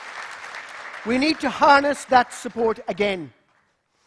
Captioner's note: applause